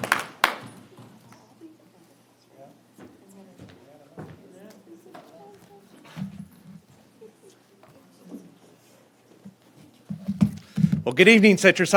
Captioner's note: applause